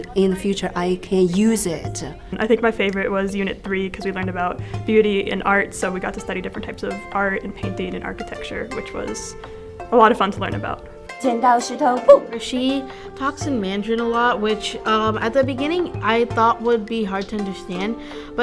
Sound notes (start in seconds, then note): 11.8 speaking in foreign language